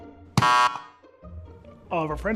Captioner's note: shop attendant pressing buzzer